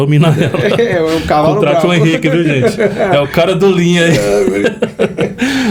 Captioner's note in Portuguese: risadas